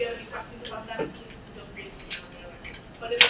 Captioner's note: speaking away from mic